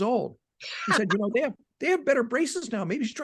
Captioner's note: laughing